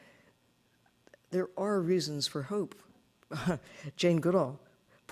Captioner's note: chuckling